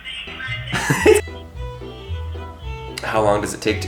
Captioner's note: laughing